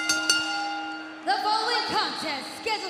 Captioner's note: crowd cheering; bell ringing